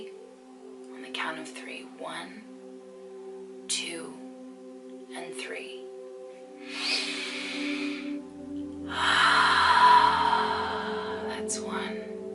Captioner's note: breathes deeply